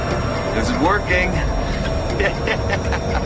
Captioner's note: Джони се смее